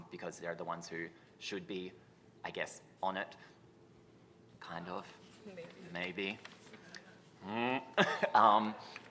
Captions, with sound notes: because they're the ones who should be, I guess, on it. Kind of. Maybe. Mmm... [CHUCKLES]